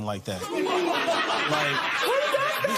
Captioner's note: laughter